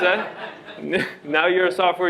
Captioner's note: laughter